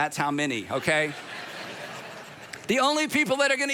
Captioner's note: audience laughs